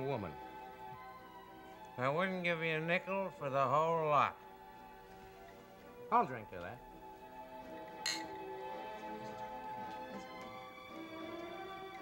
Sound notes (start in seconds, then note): 1.9 father, slurring; 8.0 glass clink